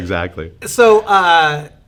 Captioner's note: laughing